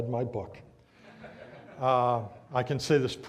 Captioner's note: audience laughs